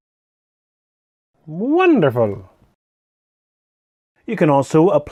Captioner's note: Said in Mario's Voice